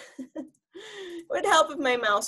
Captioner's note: laughs